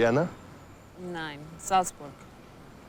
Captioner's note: Remi speaking in foreign language